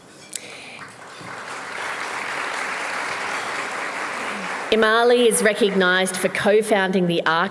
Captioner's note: applause